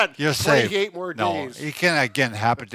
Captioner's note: laughs